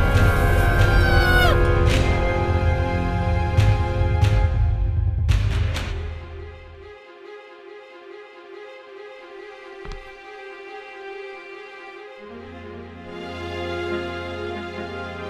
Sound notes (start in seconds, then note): none